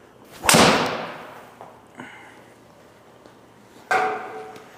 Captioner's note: club smacks ball